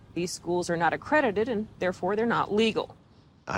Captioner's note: none